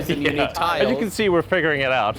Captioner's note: laughs